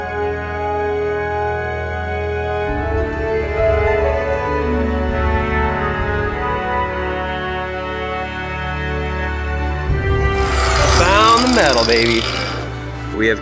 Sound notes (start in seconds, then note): 10.3 tool whirls